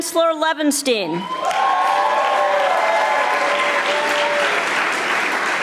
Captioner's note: audience applauding